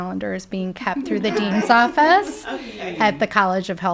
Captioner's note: people laughing